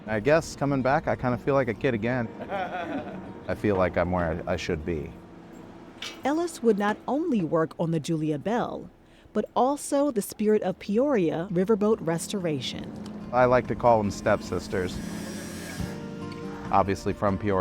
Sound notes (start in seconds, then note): 2.3 chuckles; 14.7 tool buzzing